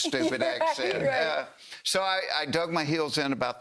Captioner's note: laughter